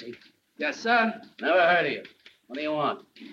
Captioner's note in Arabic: none